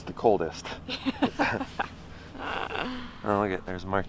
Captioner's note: laughing